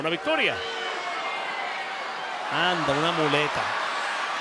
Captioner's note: crowd cheering